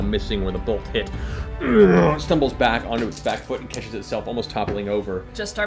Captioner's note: groans